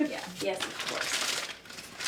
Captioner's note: paper bag opening